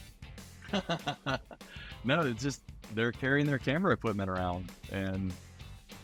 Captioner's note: laughing